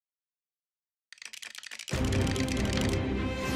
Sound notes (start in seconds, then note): 1.1 lego bricks clicking